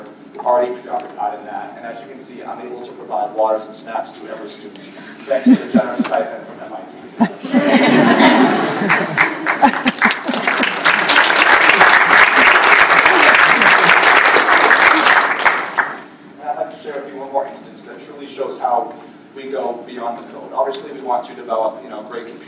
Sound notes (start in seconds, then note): 7.4 laughter, applause